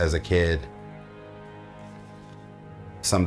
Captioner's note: page turning